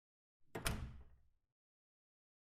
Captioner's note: door closes